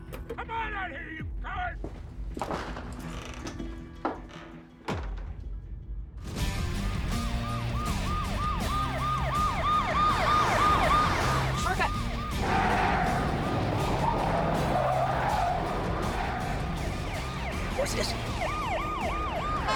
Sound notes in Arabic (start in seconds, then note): 2.4 صرير الباب، أرجوحة; 6.7 عويل صفارات الإنذار; 12.2 صرير الإطارات; 17.2 عويل صفارات الإنذار